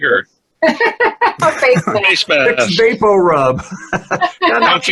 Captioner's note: laughter